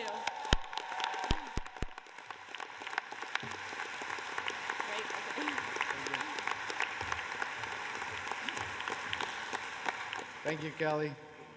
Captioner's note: cheers and applause